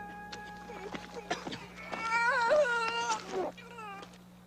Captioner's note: men cough, moan, groan